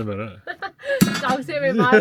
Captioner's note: laughs